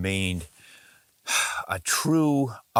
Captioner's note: deep exhale